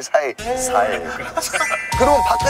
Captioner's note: laughs